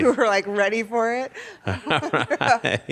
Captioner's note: laughs